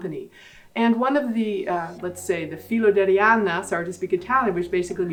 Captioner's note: speaking Italian